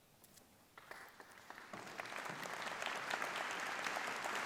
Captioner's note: clapping